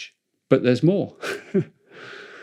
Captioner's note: laughs